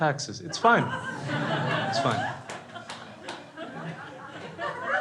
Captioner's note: crowd laughs